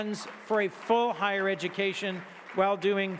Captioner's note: audience clapping